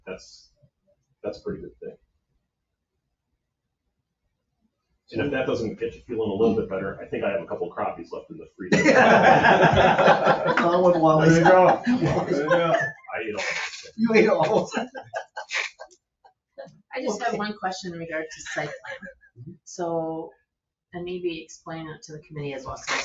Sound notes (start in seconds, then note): 8.7 all laughing; 13.5 laughing